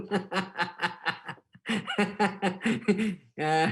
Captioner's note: laughing